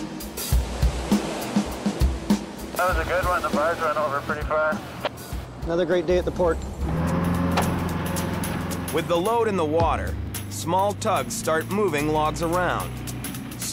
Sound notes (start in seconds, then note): 2.8 man Over Radio; 6.6 boat engine humming